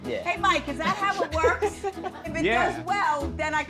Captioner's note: people laughing